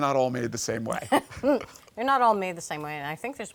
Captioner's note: laughing